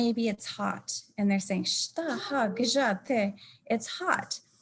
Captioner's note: speaking in native language